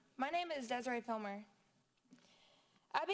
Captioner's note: none